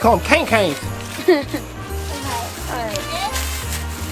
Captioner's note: boy laughs